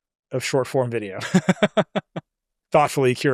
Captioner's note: laughs